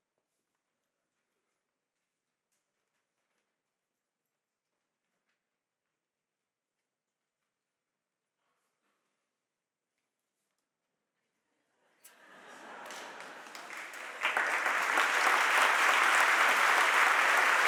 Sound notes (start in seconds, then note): 12.0 audience laughs; 14.2 audience applauding